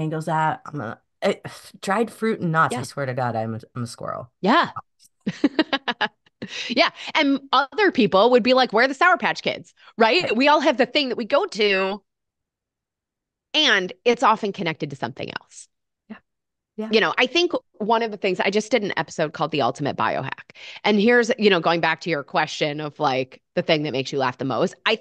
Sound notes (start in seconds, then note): 5.3 laughs